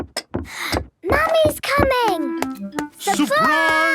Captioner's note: footsteps approaching